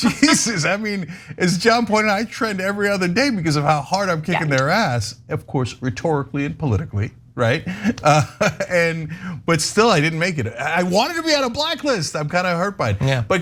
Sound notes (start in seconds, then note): 8.0 laugh